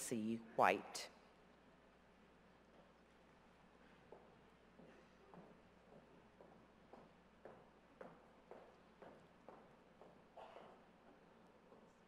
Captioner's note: silence